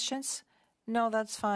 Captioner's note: speaking French